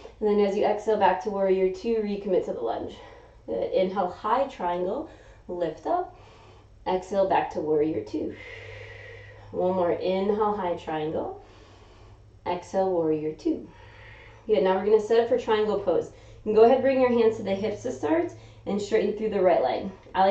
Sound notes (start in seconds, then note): 8.3 exhaling; 11.2 inhaling; 13.7 exhaling